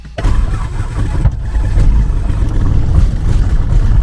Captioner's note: engine starts